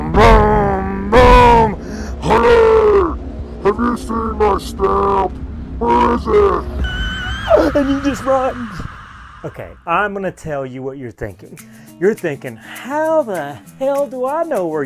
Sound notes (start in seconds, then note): 6.8 screaming